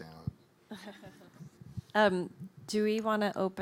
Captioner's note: laughing